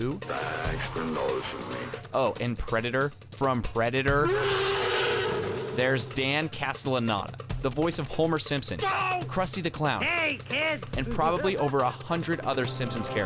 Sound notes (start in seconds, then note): 10.1 laugh